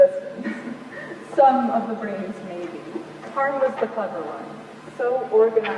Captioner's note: laughs